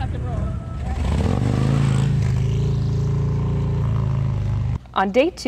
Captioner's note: motorcycle whirring